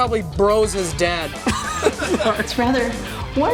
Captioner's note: laughs